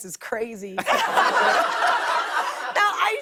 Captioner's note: laughter